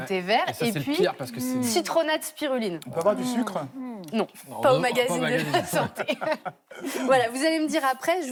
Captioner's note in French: rires